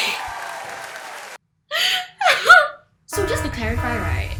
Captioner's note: wheezes